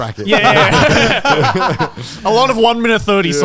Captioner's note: all laughing